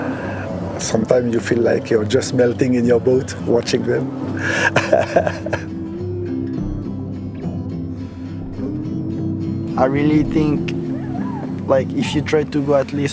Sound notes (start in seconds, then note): 4.3 laughs